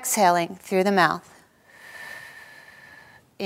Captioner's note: exhaling